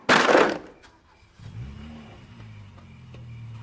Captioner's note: car starting